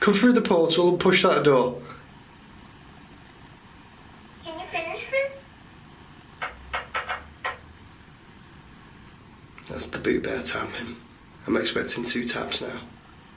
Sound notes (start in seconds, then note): 6.4 tapping